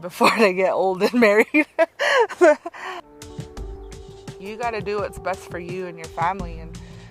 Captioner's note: laughs